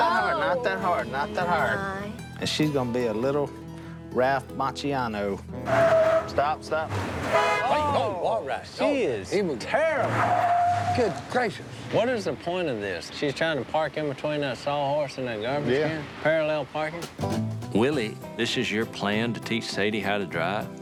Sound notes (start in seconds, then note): 5.5 tires screech; 6.8 men gasping; 6.8 horn blares